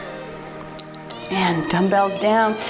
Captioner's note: timer beeps